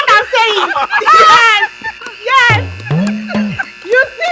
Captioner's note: everyone laughs